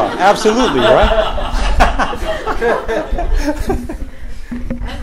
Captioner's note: laughter